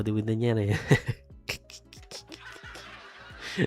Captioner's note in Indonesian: tertawa